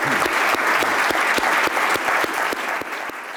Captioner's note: applause